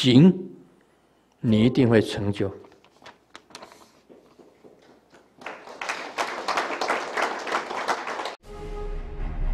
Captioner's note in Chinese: 眾鼓掌